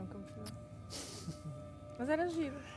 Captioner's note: laughter